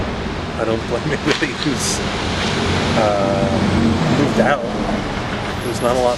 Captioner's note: laughs